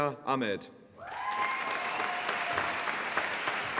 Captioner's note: applause